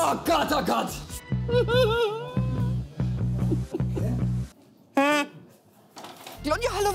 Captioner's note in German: schadenfreudiges Lachen